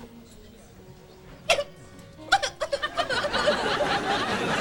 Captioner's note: crying